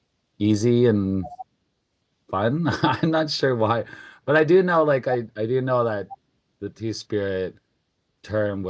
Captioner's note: laughs